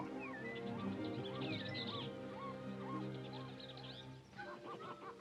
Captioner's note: birds singing; soft music